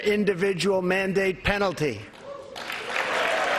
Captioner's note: applause